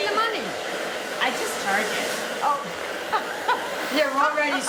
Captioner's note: laughter